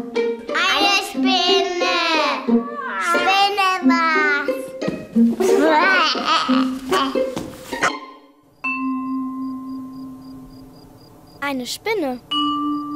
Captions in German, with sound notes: Eine Spinne! Spinne war's! Wäääh! (Neugierige Klänge) Eine Spinne.